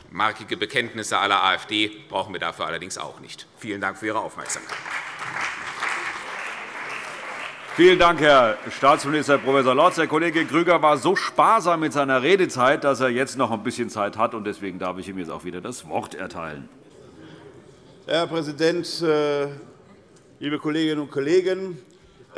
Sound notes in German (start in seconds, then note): 4.4 Beifall CDU und BÜNDNIS 90/DIE GRÜNEN